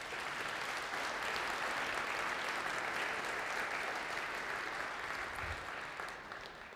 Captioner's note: applause